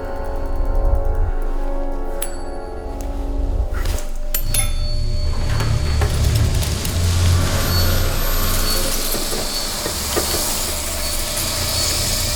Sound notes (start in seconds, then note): 4.3 clinking